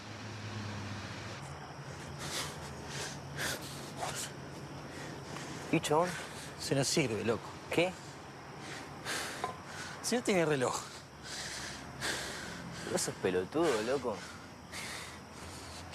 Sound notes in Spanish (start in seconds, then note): 1.8 Ricardo respira agitado